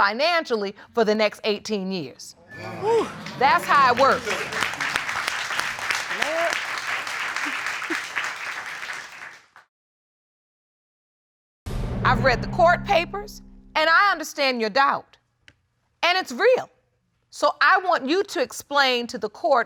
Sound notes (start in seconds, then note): 2.5 audience exclaiming; 4.6 audience applauding